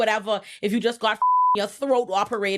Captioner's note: beep